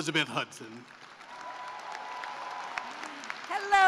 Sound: cheering and applause

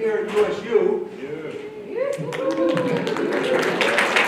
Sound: cheering; applause

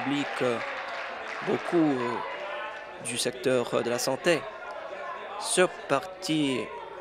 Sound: applause

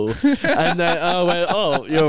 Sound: laughing

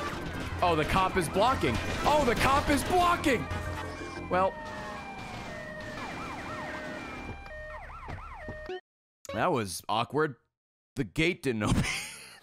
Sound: laughs

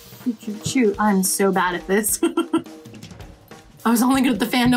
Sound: laughs

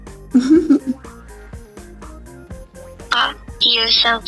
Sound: giggles

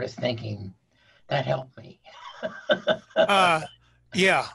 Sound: laughing

